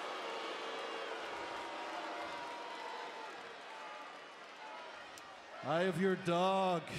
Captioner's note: applause